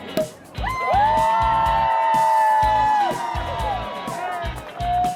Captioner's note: cork popping; crowd cheering